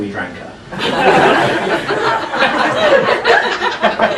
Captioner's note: laughing